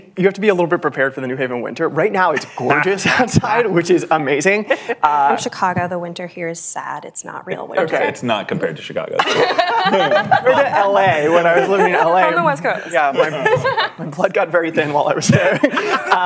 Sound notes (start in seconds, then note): 9.1 laughter; 15.2 laughter